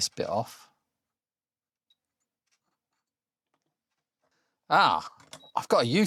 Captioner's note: silence